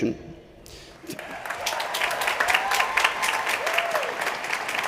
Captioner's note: applause